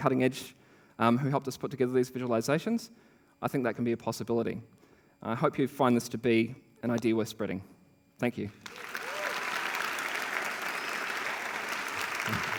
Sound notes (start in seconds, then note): 8.5 applause